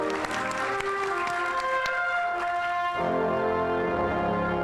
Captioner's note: audience applauding; soft instrumental music